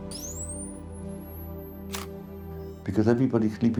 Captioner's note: camera shutter snaps